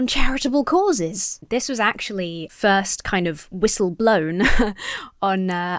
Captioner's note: chuckles